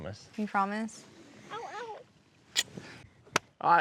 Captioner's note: smooch